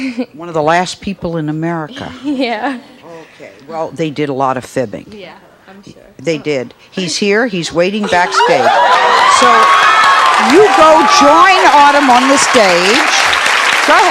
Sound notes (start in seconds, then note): 8.0 audience cheers